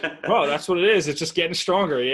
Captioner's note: laughing